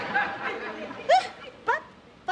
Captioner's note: scoffs